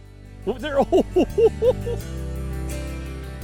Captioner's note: laughs